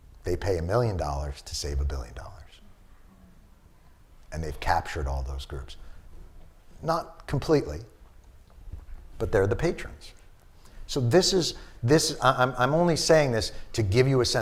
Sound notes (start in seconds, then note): none